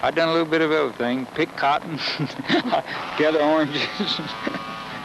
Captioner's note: laughs